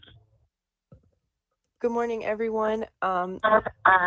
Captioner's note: ~interference~